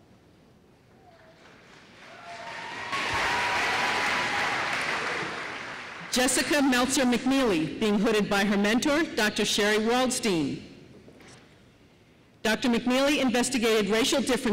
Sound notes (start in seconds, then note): 1.0 applause